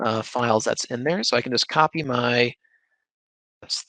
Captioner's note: faintly speaking